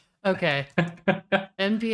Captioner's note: chuckles